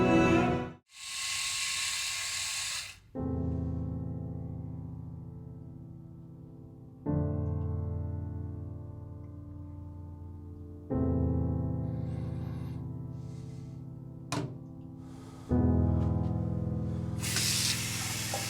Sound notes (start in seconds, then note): 0.9 razor buzzing; 4.0 slow piano music